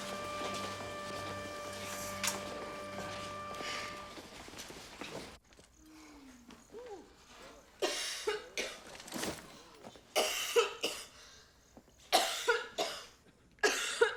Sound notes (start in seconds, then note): 7.0 coughing